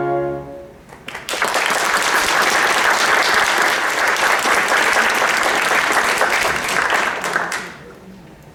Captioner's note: applause